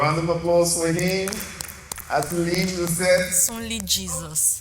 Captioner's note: clapping